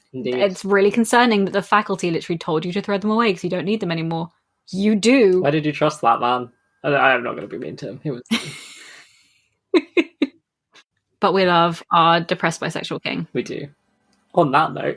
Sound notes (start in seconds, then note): 8.3 laughs